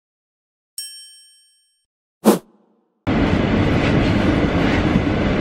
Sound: sound of glass clinking

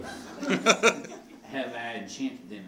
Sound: laughing

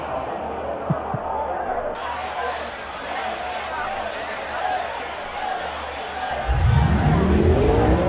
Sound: stick tapping; audience noise

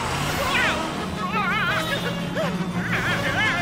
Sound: screaming

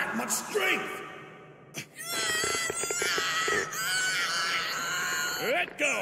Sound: Gohan screaming

